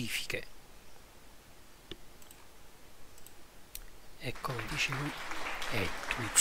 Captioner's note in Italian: Applauso